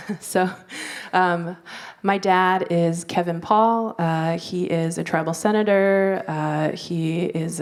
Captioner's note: laughs